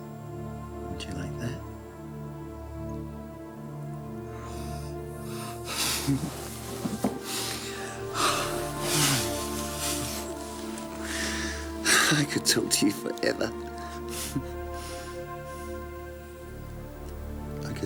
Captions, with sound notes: Would you like that? (Graham laughs) (Graham sighs) I could talk to you forever. (chuckles softly)